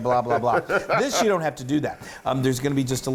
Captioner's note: laugh